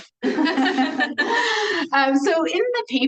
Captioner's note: everyone laughs